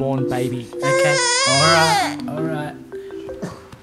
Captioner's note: baby cries